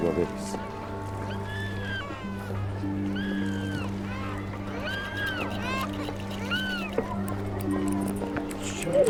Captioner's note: children crying